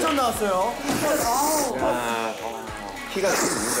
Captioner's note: enjoyable eating noises